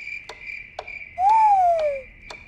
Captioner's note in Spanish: aullidos de búho; chirrido de grillos; tictac del reloj; Trinos